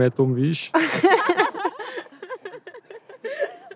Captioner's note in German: Gelächter